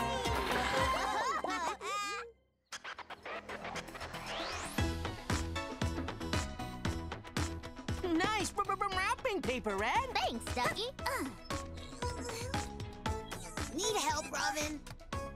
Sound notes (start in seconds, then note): 0.4 laughing; 2.5 rhythmic music; 11.7 grunting